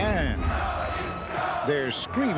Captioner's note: crowd chanting "Tony! Tony!"